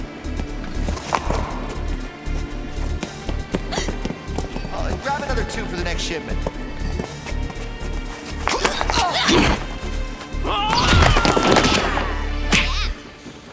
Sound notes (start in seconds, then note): 4.9 gasps; 11.5 yells